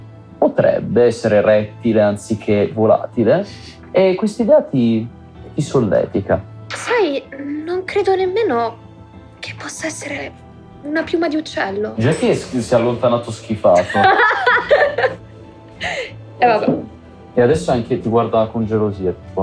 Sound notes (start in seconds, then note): 13.8 laughs